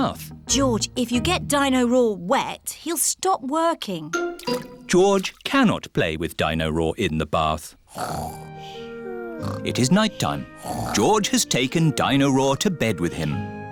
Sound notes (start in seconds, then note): 9.0 snoring